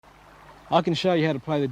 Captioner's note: nature sounds